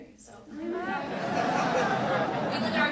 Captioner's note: audience laughs